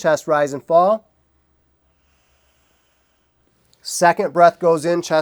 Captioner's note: breathes